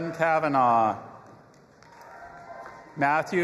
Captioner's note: audience applauding and cheering